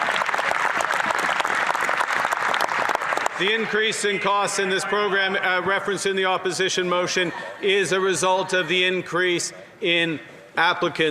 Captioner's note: applause